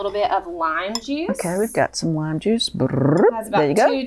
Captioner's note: brrup